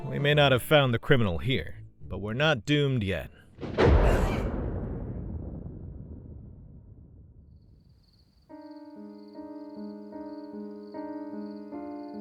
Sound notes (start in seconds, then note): 3.5 thunder crashes; 4.1 person shrieks